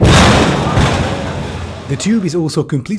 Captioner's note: loud crunch